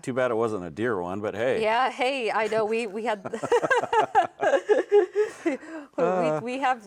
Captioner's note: laughing